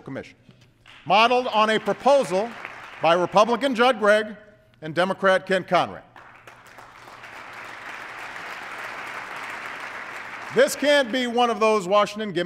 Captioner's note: applause